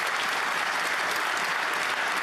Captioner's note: applause